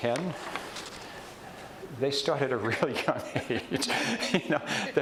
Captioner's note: chuckles